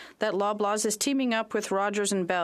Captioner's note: speaking French